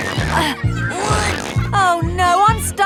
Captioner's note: grunting